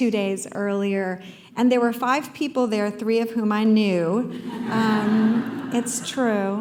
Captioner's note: laughter